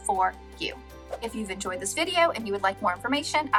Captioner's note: air whooshing